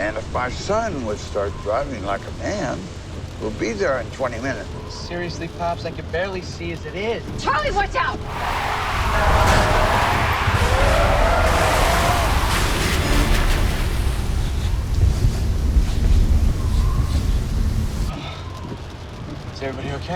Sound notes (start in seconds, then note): 8.1 tires screeching